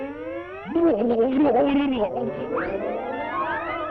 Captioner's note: whimpering